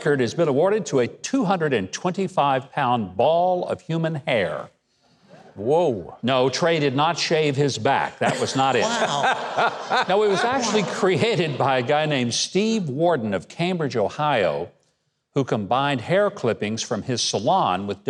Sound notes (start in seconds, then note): 5.1 audience chuckles; 8.2 audience laughs